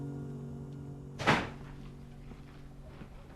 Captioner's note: DOOR CLOSlNG